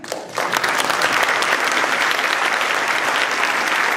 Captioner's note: applause